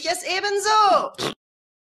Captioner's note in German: furz